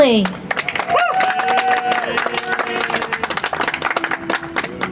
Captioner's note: audience applauds; soft music